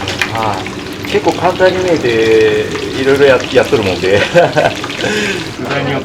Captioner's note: frying